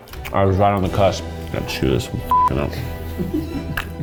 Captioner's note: beep